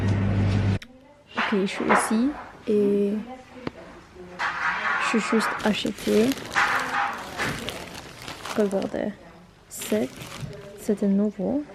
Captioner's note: loud hums from the refrigerators; people talking in the distance